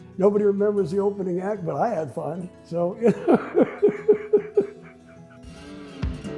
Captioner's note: laughs